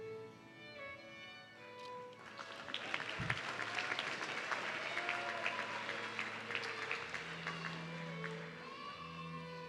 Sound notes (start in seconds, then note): 2.4 audience cheering